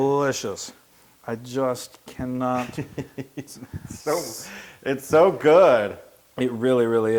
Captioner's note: laugh